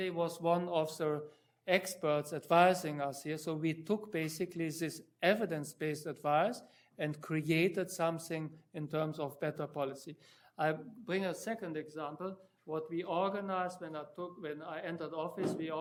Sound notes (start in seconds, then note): none